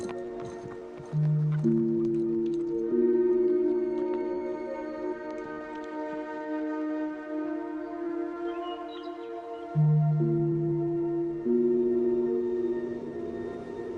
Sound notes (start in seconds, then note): 7.6 birds chirping